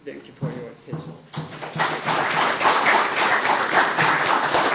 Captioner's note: applause